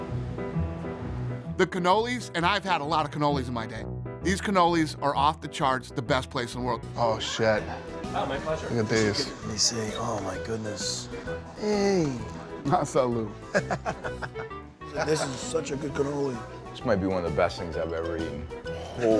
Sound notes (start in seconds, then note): 12.5 speaks foreign language; 13.6 laughs